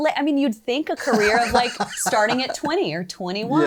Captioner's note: laughing